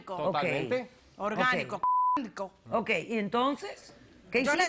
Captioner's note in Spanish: Bip